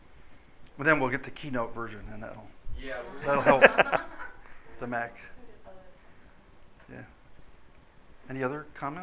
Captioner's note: laughter